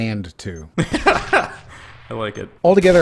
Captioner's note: laughs